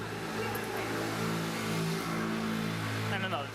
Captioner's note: motorcycle drives